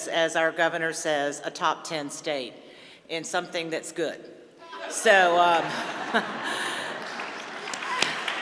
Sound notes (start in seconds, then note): 5.2 laughter; 6.7 applause